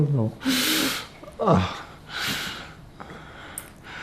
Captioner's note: laughing